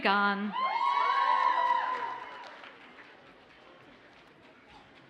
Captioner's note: audience cheers and applauds